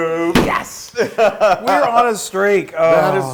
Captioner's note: laugh